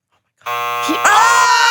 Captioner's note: timer buzzing